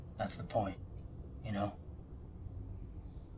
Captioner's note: none